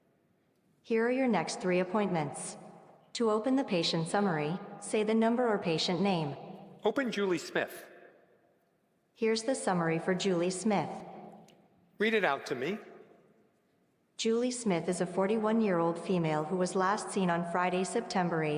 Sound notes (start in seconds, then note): none